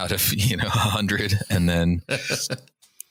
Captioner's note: laughter